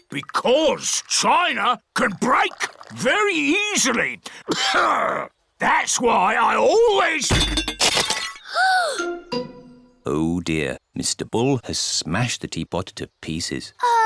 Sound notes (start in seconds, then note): 4.5 clears throat; 8.0 peppa gasps